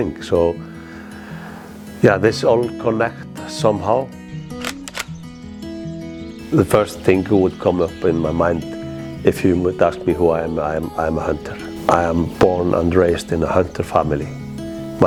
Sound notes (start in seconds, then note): 4.5 rifle clicking